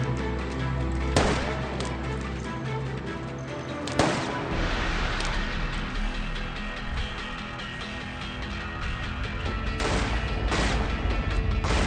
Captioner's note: guns firing continuously